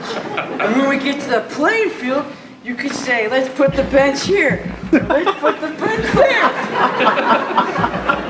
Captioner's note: more laughing